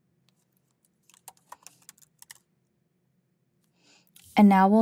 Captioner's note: keyboard clacking continues